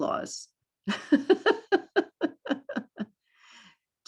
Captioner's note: laughs